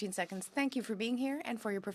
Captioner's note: speaking in french